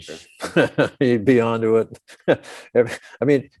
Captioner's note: chuckles